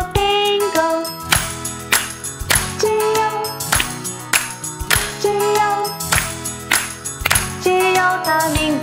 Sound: clap clap

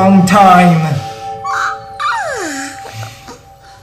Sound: yawns

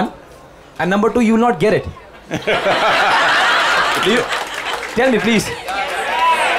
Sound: laughter/Applause

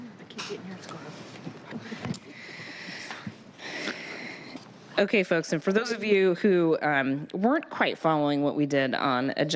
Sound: laughter

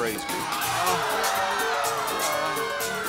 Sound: audience yelling

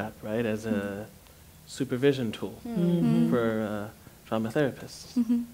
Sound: others agreeing

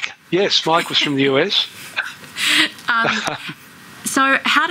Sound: laughter

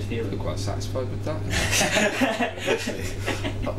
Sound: they laugh

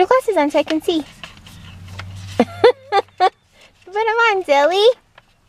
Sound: mom laughing

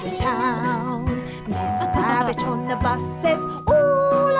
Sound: children giggling

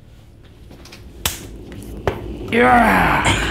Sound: hands claps; grunts

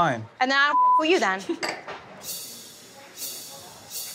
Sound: beep

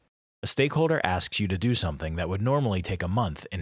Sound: voiceover

